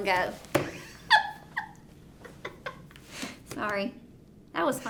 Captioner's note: laughing